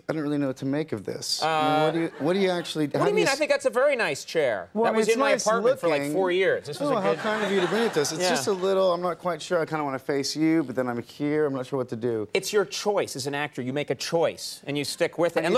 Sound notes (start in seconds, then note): 6.8 audience laughs